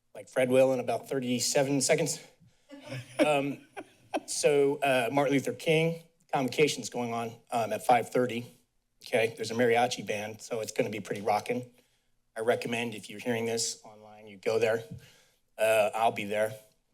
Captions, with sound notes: like Fred will in about 37 seconds. [chuckles] So Martin Luther King convocation is going on at 5:30. Okay, there's a mariachi band. So it's going to be pretty rocking. I recommend if you're hearing this online, you go there. I'll be there.